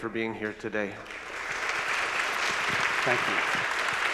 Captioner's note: crowd applause